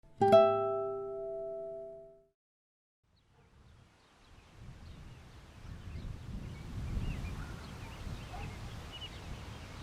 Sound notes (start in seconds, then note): 0.0 sound — grass and wind